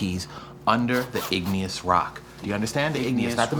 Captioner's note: zipper zipping